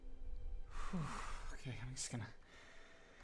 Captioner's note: phew